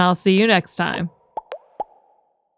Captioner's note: graphics popping